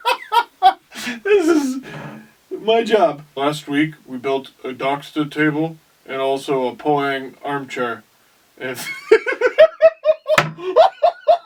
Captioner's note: big laugh